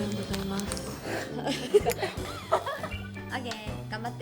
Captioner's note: laughter